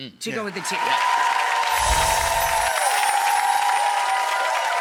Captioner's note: audience applauding